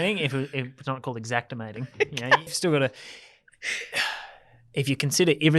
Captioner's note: laughs